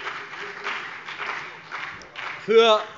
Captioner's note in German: Beifall BÜNDNIS 90/DIE GRÜNEN und vereinzelt CDU